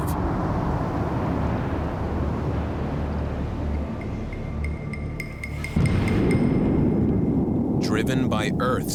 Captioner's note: eruptions echo